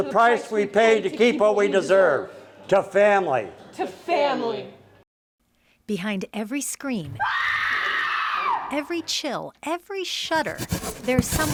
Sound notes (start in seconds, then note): 7.1 screams